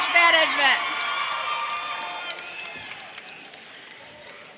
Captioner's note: audience cheers